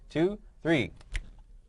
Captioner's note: snap